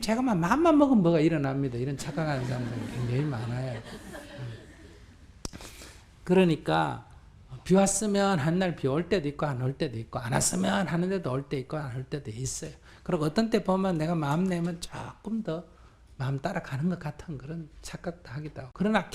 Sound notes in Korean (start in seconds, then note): 5.2 청중 웃음